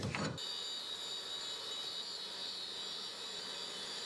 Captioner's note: machinery whirring